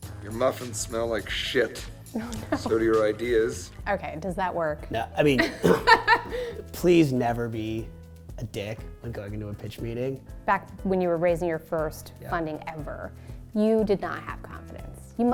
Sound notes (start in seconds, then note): 2.2 laughing; 5.4 laughing